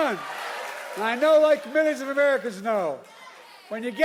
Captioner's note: applause